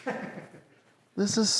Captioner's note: laughs